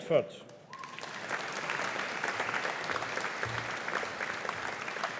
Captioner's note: audience applauding